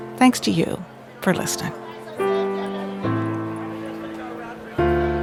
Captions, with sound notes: Thanks to you for listening. (gentle piano music) (people chatting)